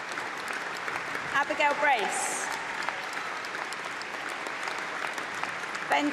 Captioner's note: applause